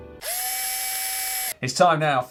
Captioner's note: drill whines